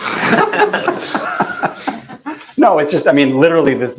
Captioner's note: laughter